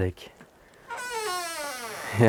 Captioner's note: door hinges squeaking